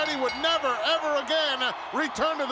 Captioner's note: bell rings